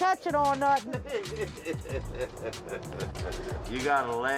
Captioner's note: man laughs